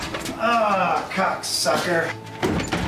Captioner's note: engine rattling; beeping